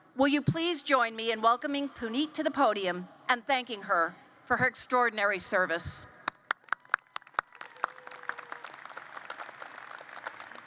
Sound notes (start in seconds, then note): 6.2 applause